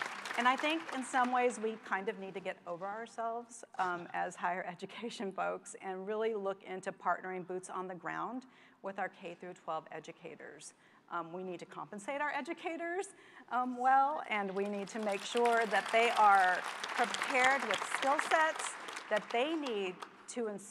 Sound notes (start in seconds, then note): 14.5 applause